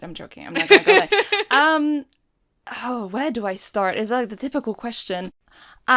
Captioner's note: Rover laughs